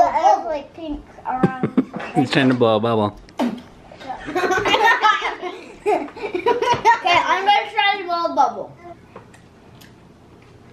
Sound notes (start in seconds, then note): 4.2 laughing